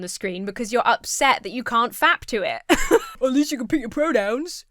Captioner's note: laughs